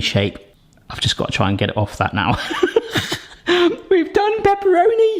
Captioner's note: laughs